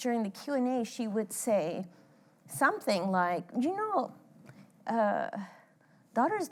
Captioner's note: with cuban accent